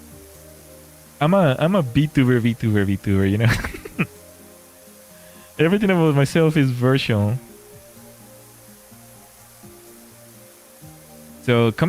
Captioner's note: laughter